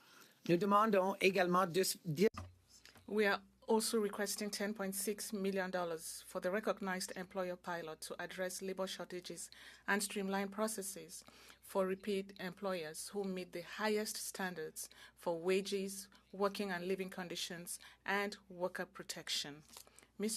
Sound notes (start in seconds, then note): 5.2 speaking French